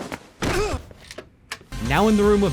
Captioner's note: locks door